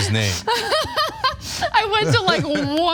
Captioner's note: laugh